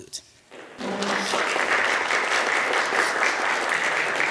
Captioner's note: audience applauding